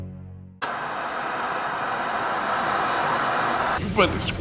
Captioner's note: suspenseful music; static crackling